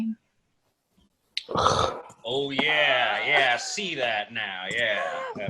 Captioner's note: sound of disgust